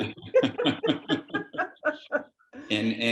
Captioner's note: laughs